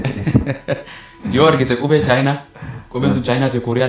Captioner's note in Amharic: ሳቅ